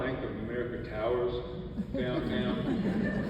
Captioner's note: audience laughs